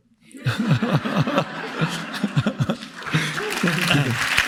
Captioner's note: all laughing; audience clapping